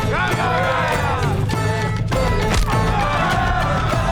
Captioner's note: upbeat music; all cheering; upbeat music